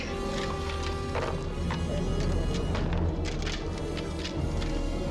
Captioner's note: tense music grows; shells clattering